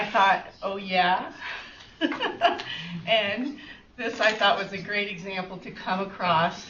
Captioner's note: chuckles